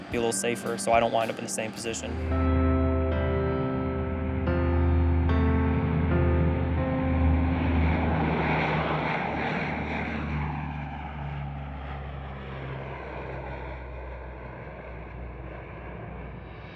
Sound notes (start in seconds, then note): 3.2 gentle music; 6.2 plane hums